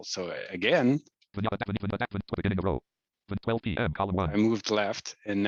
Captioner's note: rapid screen reader audio output